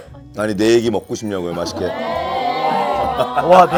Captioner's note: haha